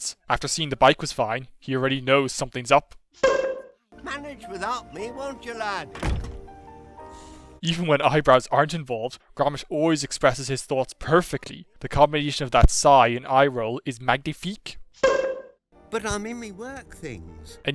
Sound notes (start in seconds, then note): 5.9 door shuts; 6.9 sighs